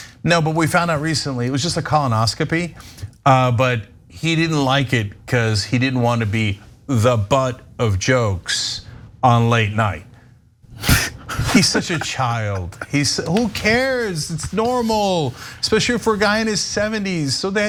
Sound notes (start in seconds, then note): 10.9 laugh